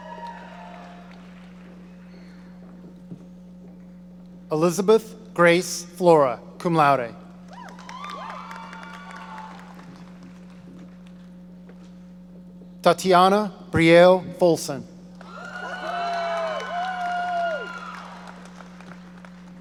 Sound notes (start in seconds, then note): 0.0 audience cheering; 7.5 cheering; 15.2 audience cheering